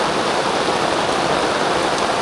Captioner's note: rain